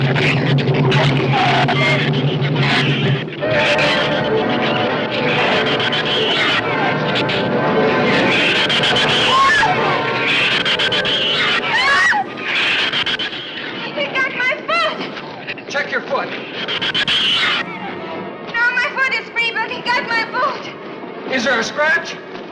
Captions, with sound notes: (shrews snarl) (shrews screech) (tense music continues) (Ann screams) (Ann screams) - He got my foot! - Check your foot! - No, my foot is free, but he got my boot. - Is there a scratch?